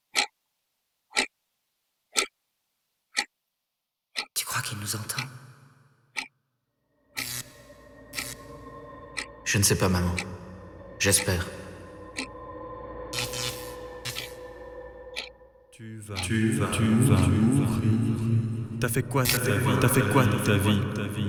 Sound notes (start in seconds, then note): 15.7 echoing